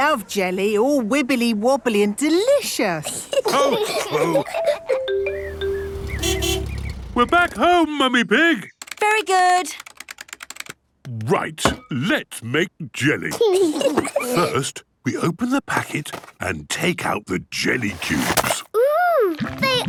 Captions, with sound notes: - I love jelly! All wibbly-wobbly and delicious! (laughs) (horn honking) - We're back home, Mummy Pig! - Very good! - Right! Let's make jelly! (giggles) First, we open the packet and take out the jelly cubes.